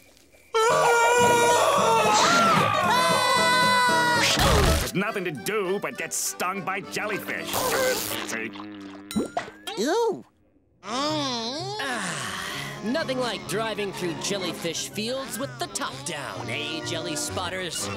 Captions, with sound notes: [screaming] There's nothing to do but get stung by jellyfish. See? [sighing] Nothing like driving through jellyfish fields with the top down, eh jelly spotters?